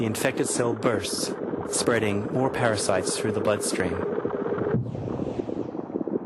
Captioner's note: gurgling